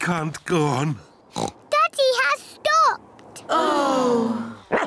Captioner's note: oinks; all sigh; barks